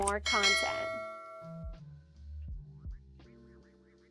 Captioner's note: dell dings